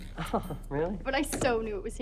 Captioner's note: Nigel chuckles